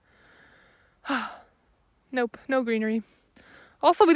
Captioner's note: sighs